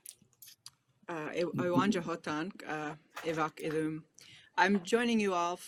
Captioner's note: speaking a foreign language